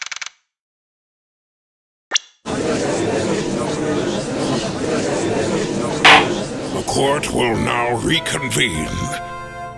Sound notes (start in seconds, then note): 2.5 gallery chattering; 6.0 gavel slams!